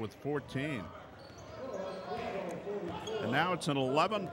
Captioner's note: yelling